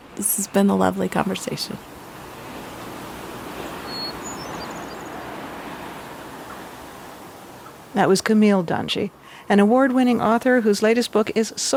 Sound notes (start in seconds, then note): 2.4 birds chirping; 2.4 wind blowing